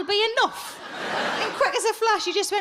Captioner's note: audience laughs